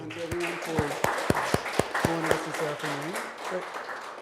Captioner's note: applause